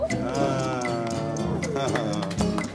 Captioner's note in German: lachend